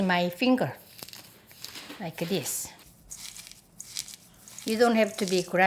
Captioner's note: light grinding sound